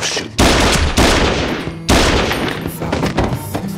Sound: gunshots ringing out

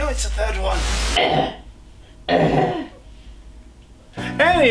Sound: death noises

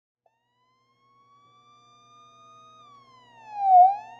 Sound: police sirens

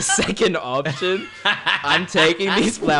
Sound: laughing

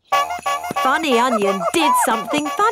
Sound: shoes honking

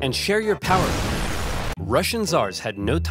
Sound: loud bomb exploding

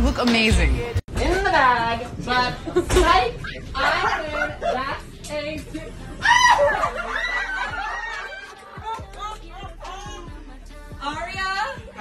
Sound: screaming

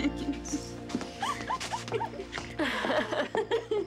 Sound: all giggling

